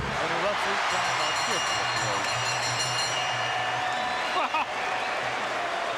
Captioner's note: bell chimes